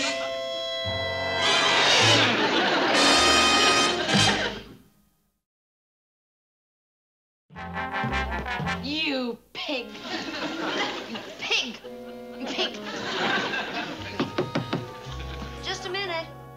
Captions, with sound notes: You pig! You pig! You pig! (knocking on door) Just a minute!